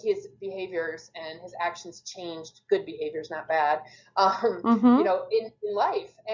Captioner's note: chuckles